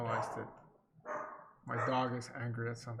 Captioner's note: dog barking